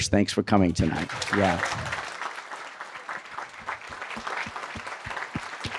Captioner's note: applause